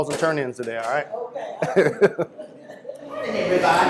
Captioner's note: laughter